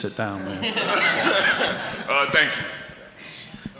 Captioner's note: audience laughing